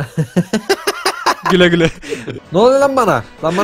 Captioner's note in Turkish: Gülerek